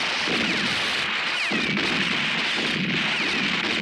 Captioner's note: guns roaring